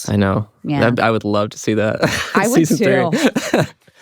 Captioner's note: laughs